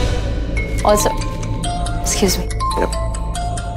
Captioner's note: Phone ringing